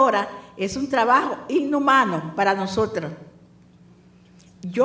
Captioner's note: speaking spanish